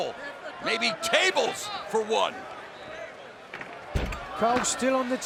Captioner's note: fans chattering